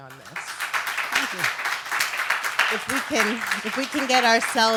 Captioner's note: audience applause